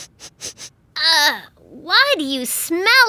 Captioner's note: sniffing